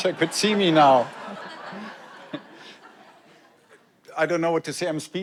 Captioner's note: audience laughs